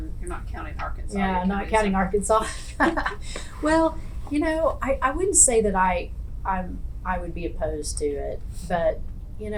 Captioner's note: laughs